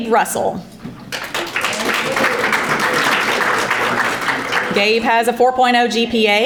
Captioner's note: audience applauding